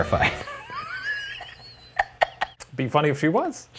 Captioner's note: laughs